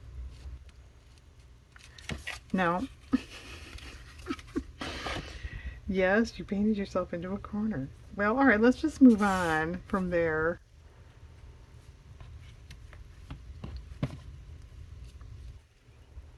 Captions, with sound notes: no (laughs) yes, you painted yourself into a corner well all right let's just move on from there